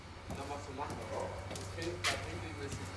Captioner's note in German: Undeutliche Stimmen